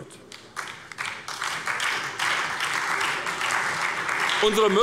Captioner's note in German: Beifall bei der SPD